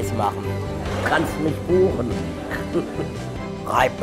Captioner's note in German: lacht